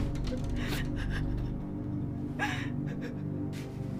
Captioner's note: Ann sobbing